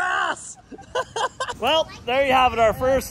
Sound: laughing

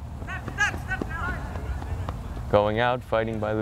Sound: players talking and yelling

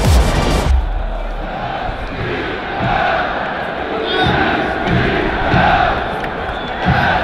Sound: people cheering; drums thudding

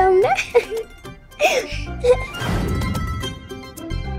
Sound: laughs

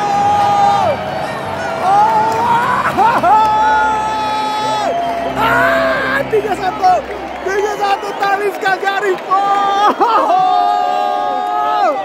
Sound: clap

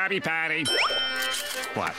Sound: bell ringing

